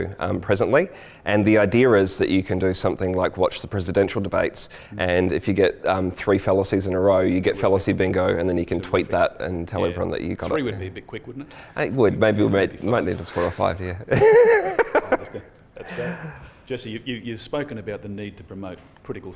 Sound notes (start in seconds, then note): 14.1 laughs